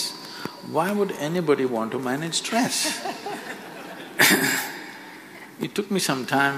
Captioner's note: few Laugh